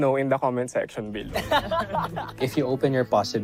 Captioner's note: laughter